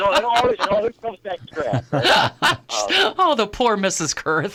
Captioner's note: laughing